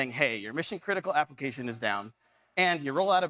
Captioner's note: none